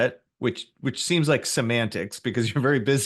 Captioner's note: laughs